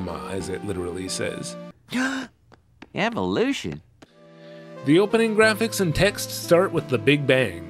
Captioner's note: gasp!